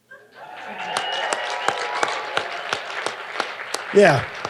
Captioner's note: audience applauding